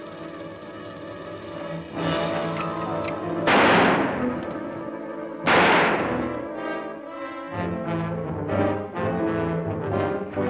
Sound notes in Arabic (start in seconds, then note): 0.2 خشخشة الثعبان; 2.0 موسيقى أوركسترالية درامية; 3.5 اطلاق نار